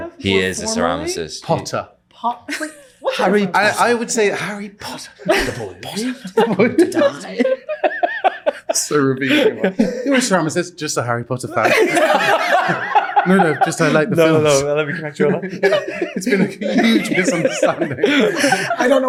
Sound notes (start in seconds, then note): 12.6 laughing